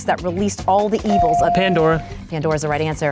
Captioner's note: bell dings